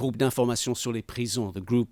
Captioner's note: speaking in foreign language